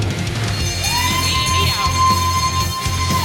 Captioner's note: bells ringing